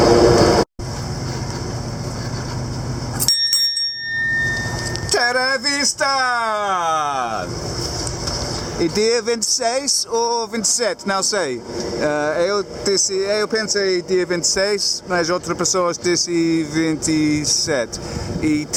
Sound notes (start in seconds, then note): 2.9 talking in Portuguese